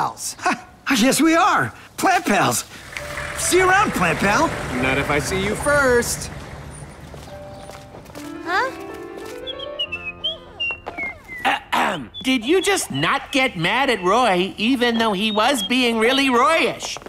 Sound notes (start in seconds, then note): 9.4 whistling; 11.4 Ben clearing throat